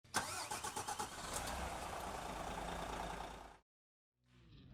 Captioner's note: truck engine starting